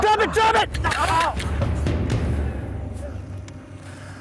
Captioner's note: gun shot